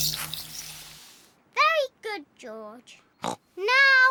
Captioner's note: snorts